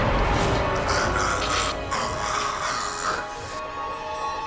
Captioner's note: chokes